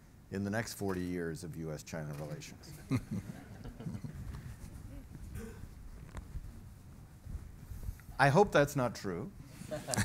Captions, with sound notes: in the next 40 years of U.S.-China relations. (audience chuckles wryly) I hope that's not true,